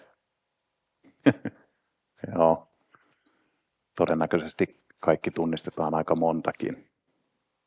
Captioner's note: laughs